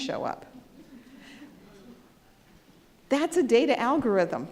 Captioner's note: audience chuckles